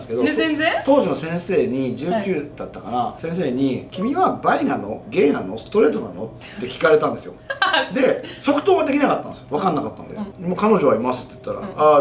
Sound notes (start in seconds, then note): 7.9 laughs